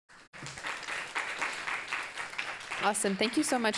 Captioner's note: audience applauding